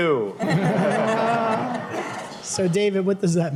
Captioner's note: laughter